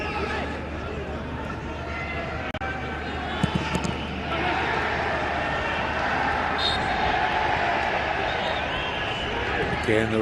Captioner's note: whistle blowing